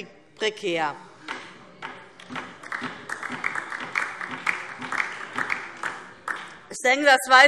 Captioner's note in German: Beifall DIE LINKE